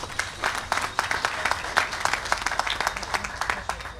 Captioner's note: applause